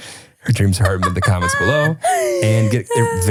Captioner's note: laughing; laughs